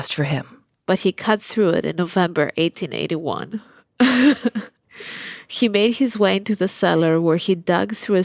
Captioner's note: laughs